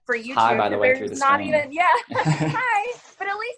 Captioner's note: laughs